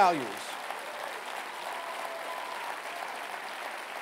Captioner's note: cheering and applause